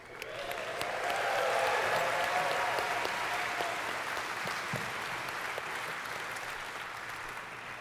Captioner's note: audience cheers